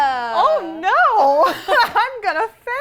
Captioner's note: laughs